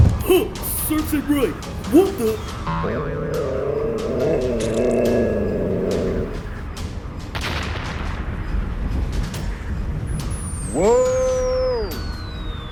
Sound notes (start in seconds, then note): 2.6 boing and Growls; 7.4 explosion